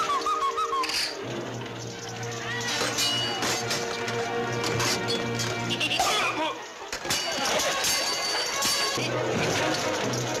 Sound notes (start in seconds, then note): 6.8 steel clanking